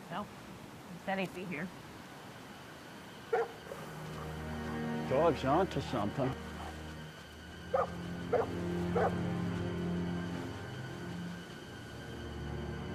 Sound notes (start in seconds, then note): 3.3 pensive music; 3.3 dog barking; 8.9 barking continues